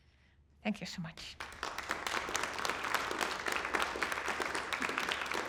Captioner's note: applause